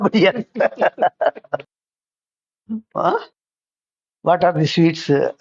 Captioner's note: laughs